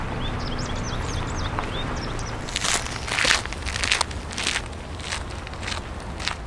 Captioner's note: forest noises and birdsong